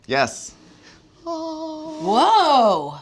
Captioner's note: humming